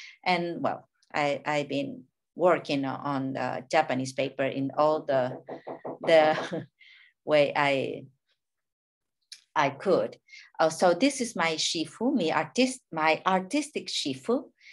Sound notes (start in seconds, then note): 5.3 neighbor hammering